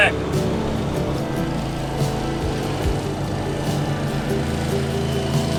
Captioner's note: boat engine roars